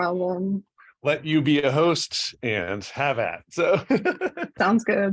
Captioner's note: laughter